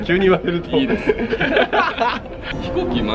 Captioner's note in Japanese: 笑笑